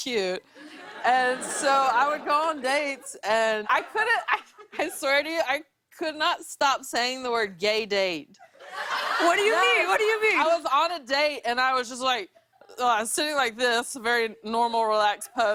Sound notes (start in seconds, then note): 8.4 laughter